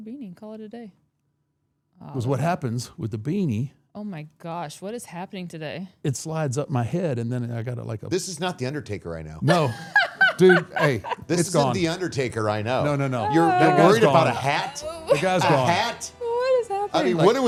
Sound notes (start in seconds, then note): 9.4 laughing